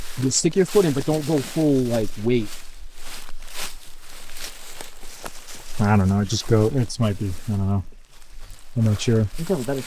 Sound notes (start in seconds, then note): 3.3 footsteps pattering; 3.3 leaves rustling